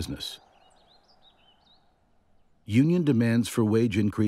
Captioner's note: birds chirping